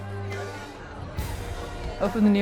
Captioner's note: people chattering